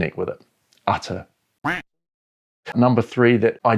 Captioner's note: duck quack